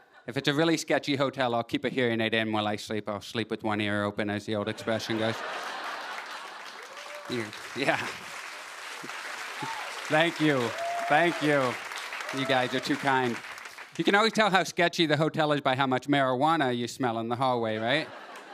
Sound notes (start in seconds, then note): 4.6 laughter; 7.8 cheers and applause